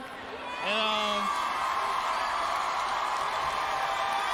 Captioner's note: cheering